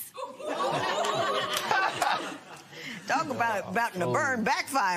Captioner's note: laughter